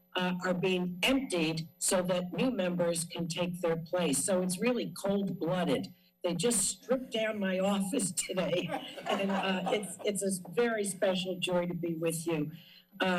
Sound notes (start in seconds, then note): 8.5 laughter